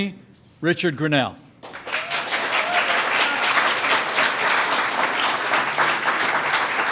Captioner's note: applause